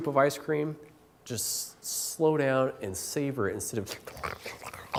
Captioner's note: eating noises